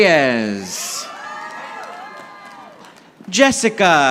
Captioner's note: audience applauding